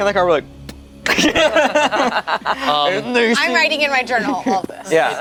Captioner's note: group laughs